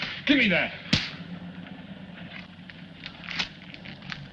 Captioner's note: slap cracks